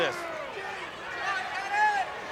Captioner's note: crowd clamoring